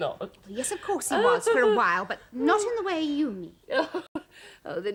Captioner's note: Epifania keeps laughing